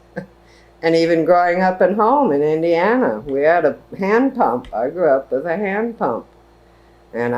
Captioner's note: laughs